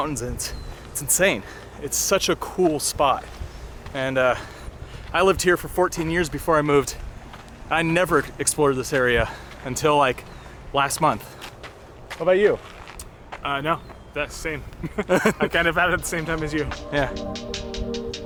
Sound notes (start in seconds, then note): 14.6 both laugh; 18.0 calm music